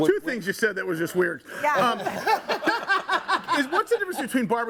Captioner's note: group laughs